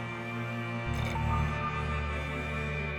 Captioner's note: straw slurps